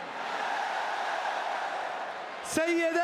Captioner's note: applause